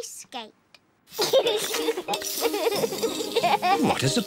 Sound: giggles

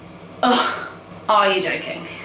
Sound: sighs

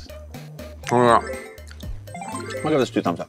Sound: Takeru speaks Japanese; graphics dinging

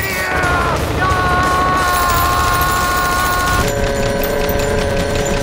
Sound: rapid fire shooting; slow motion shouting

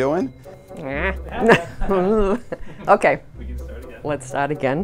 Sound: silly sounds

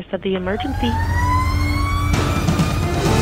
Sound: siren wailing; intense music

